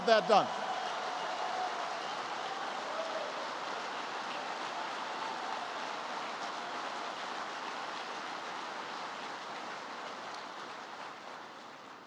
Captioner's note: applause